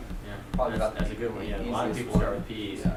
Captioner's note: voiceover